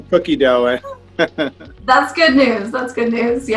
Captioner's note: laughs